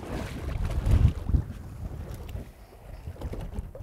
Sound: water splashing

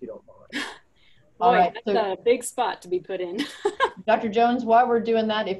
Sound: laughs

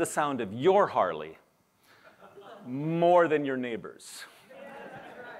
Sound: laughter

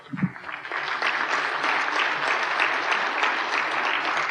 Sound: applause

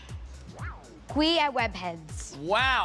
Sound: speaking Italian

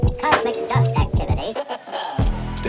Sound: laughter

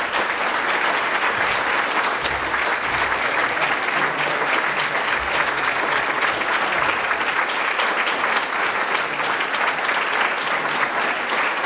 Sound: applause

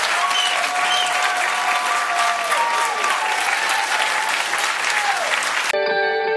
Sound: applause

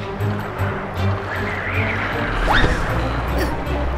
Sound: wind blows

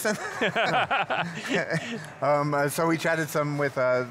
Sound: laughing

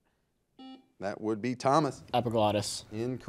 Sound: buzzer buzzes

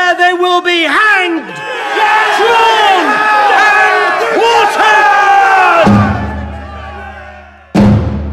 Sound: Coke’s voice is lost amongst the cheering of a vengeful crowd

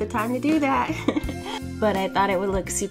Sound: laughs

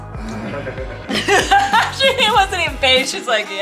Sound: laughs

